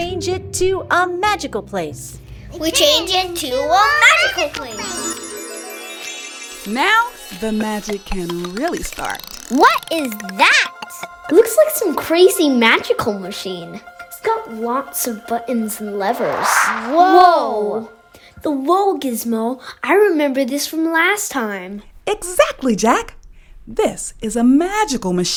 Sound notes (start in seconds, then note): 8.9 Shaking, tinkling, ringing ... sounds of the Whoa Gizmo appearing; 16.0 whoosh sound